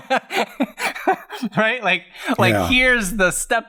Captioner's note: laughs